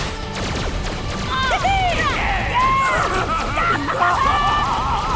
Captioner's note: cheering